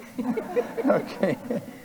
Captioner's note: audience and participants laughing